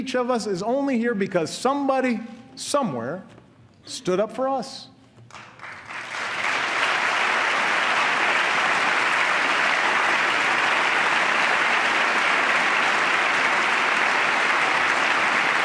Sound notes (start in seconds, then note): 9.4 applause